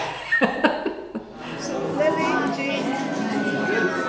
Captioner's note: room chatter